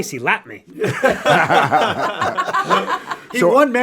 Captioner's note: all laughing